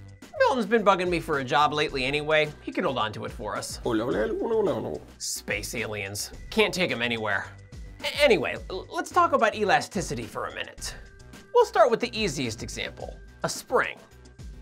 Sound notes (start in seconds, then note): 3.9 alien Noises